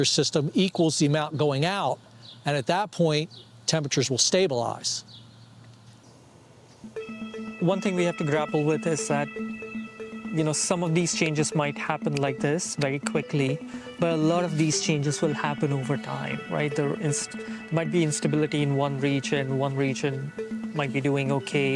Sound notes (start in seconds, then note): 5.0 birds chirping; 10.5 suspenseful music